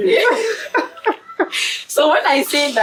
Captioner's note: laughs